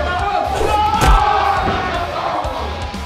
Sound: loud thud; cheering

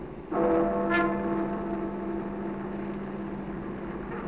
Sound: honking

